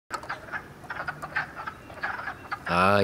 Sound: various quacking noises

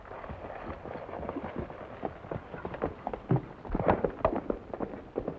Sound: horse hooves clomping

